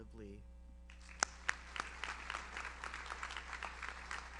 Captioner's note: audience applauds